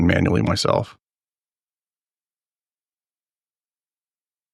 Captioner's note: silence